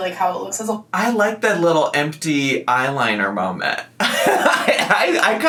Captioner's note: laughs